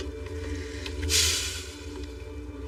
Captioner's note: sighs